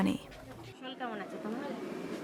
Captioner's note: speaking Indian language